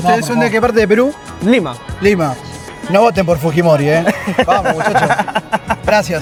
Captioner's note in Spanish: risas